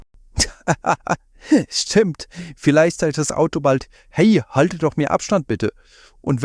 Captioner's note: laughing